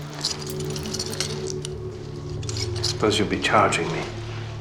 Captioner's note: handcuffs jingling